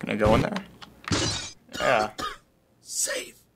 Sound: glass shatters; time traveler coughs; raspily

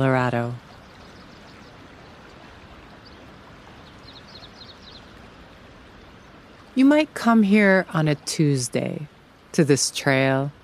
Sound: gentle water flowing, bird song

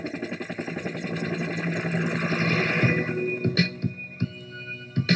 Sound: helicopter

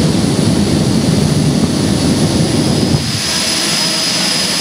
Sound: jet engine flame show sound

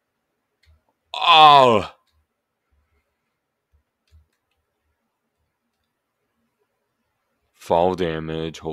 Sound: agh

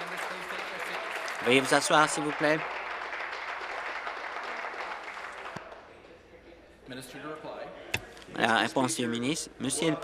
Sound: applause

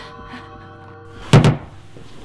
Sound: door Shuts Quietly

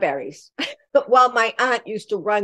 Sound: laughter

